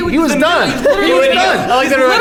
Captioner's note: arguing